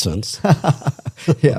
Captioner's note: laughter